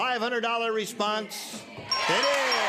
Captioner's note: bell dinging; cheers and applause